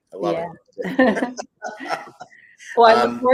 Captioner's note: laughter